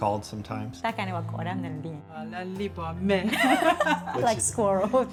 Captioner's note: speaking in foreign language